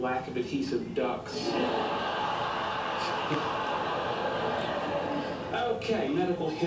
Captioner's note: audience laughter